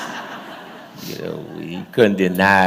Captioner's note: laughter